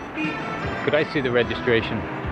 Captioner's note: horn honks